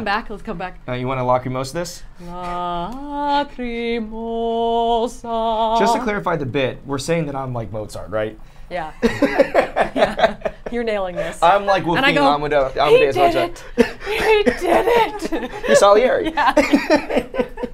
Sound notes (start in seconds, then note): 9.0 laughs